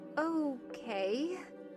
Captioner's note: uneasily